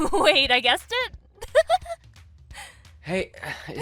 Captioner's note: amanda laughs